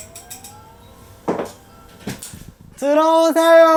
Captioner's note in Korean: 우렁찬 벨소리